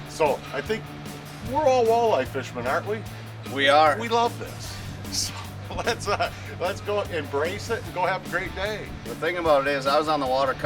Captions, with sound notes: So I think we're all walleye fisherman, aren't we? - [Voiceover] We are. - We love this. So let's go embrace it and go have a great day. - The thing about it is,